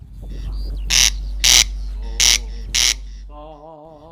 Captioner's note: corn crake craking sound